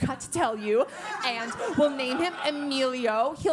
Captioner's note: laugh